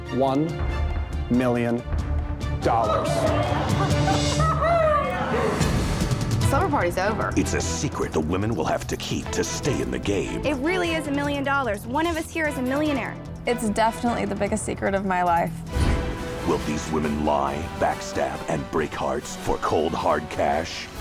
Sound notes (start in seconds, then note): 2.6 contestants exclaiming